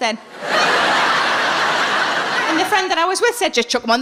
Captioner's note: audience laughing